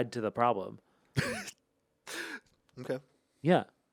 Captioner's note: Anthony laughs